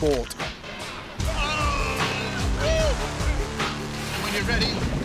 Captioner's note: shouting